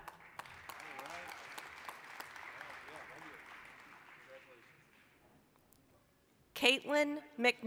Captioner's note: applause